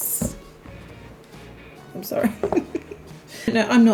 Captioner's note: laughter